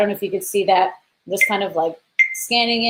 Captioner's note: repeated beeping